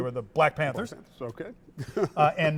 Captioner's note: chuckles